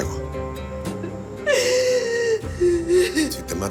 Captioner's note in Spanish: Sollozos